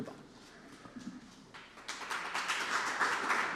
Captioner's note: applause